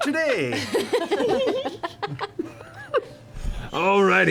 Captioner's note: laughter